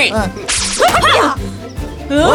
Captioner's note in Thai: เสียงยิงธนู